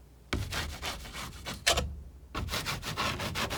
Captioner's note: scratching